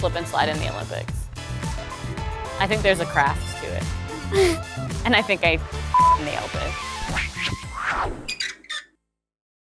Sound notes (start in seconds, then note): 4.2 laughing; 7.3 swishing; 8.2 creaking